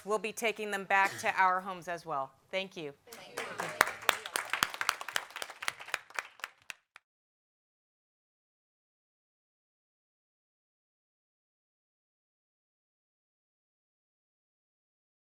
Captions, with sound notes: We'll be taking them back to our homes as well. Thank you. (applause)